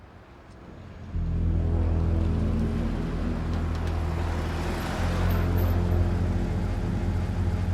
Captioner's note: ominous ambient music; footsteps pattering